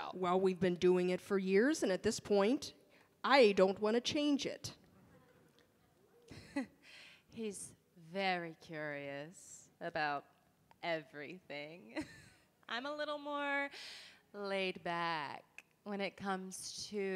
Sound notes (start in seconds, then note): 6.1 chuckles